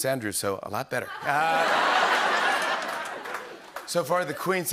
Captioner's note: laughter